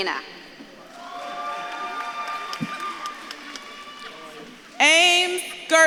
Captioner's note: audience claps and cheers